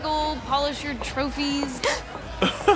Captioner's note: gasps